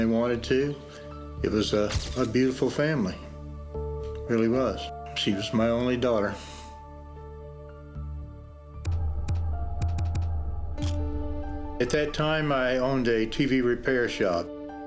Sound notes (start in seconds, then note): 7.8 sad music; 7.8 thumping